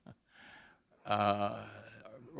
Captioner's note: chuckle